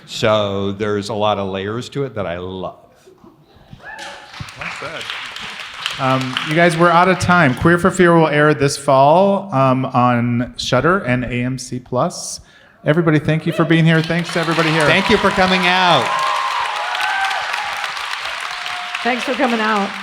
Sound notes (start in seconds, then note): 3.5 audience cheers; 15.9 audience applauds